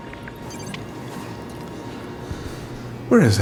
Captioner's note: monitor bleeps